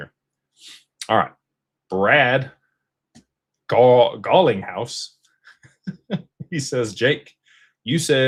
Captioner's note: snorts; laughter